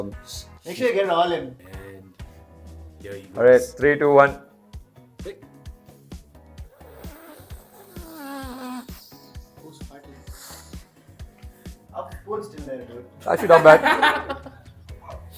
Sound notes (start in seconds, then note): 4.4 snorting starts; 13.3 laughing